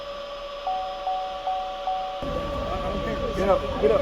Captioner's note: device beeping